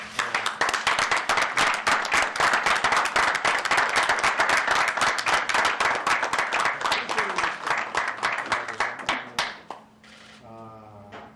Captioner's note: applause